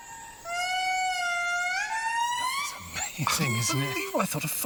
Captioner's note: lemur cry